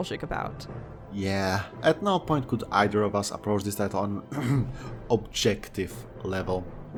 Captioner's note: akhm